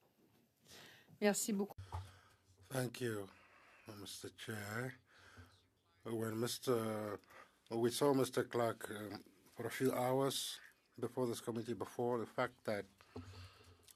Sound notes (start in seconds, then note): 8.4 speaking French